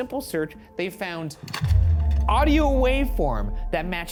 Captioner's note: slide projector clicks